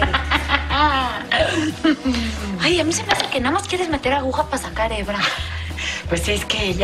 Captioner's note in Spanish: risas